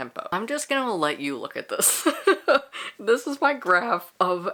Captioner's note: laughs